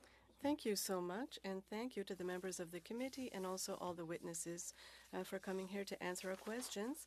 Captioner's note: speaking French